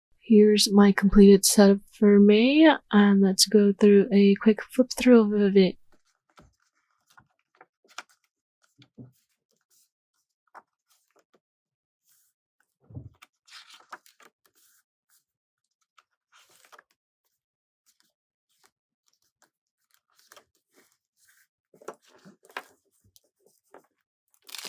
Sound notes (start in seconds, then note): 5.7 flipping pages